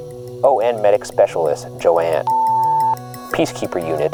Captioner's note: beep